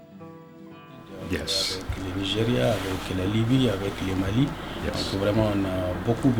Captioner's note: speaks in foreign language